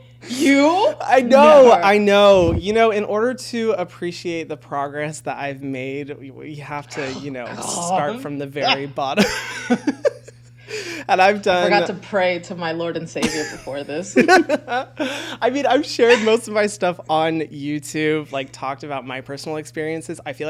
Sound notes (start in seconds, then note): 0.0 laughs; 15.9 laughs